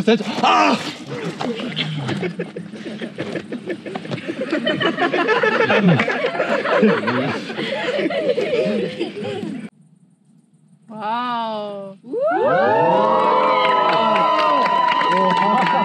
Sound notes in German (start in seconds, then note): 3.0 Lachen; 12.1 Jubel